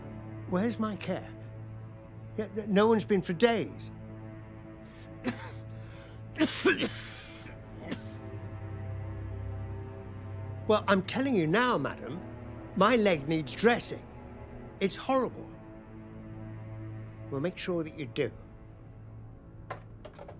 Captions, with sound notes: Where's my care? No one's been for days. (Tom coughs) Well, I'm telling you now, madam. My leg needs dressing. It's horrible. Well, make sure that you do.